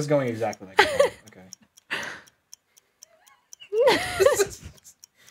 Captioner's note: clock ticking